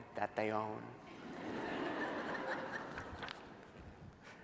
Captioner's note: laughter